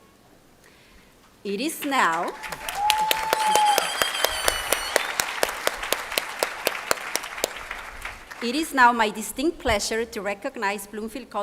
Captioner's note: speaking spanish